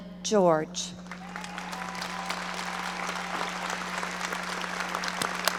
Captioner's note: audience applauding